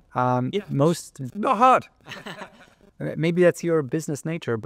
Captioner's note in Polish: śmiech